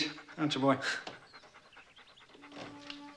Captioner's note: dog panting